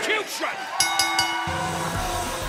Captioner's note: bell ringing